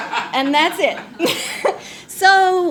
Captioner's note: all laugh